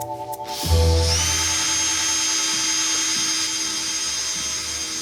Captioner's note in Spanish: Ruido del taladro